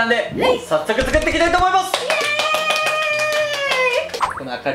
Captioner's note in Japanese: 拍手